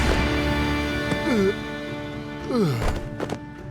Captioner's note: groaning